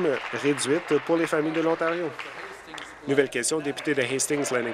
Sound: applause

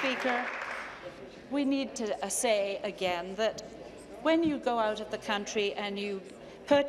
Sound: applause

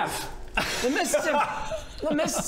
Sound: incredulous laugh

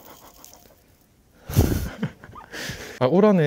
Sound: just laughing

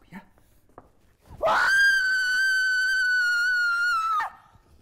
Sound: screams

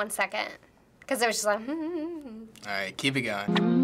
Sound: humming

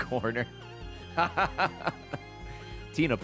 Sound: laughs

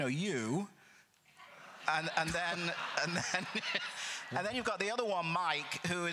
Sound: crowd laughter

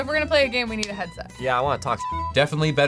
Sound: beep

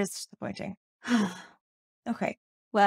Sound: sigh

